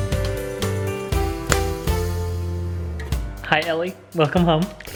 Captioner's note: snaps fingers